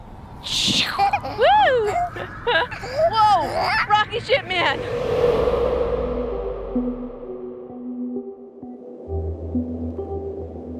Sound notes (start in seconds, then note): 1.2 both laughing; 4.1 melancholy music